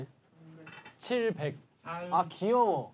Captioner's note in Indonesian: Membaca dalam bahasa Korea